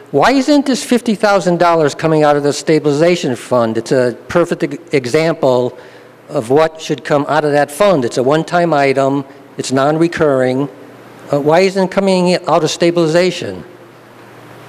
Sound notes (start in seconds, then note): none